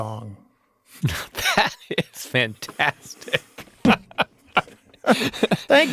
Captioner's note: chuckling